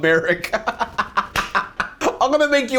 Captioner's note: laughs; claps